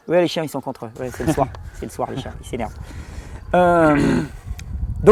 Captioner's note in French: rires; rires